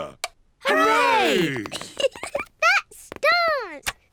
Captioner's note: giggles